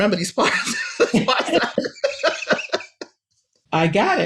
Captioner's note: laughs